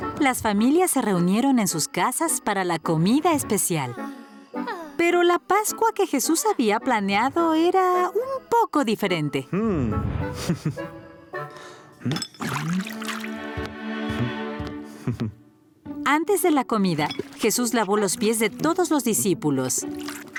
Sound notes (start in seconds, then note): 10.3 chuckles; 12.3 water sounds